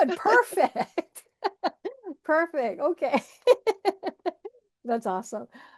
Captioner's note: laughs